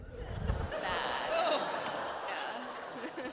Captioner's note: laughter